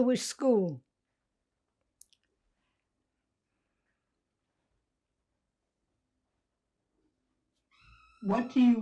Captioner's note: pauses 6 seconds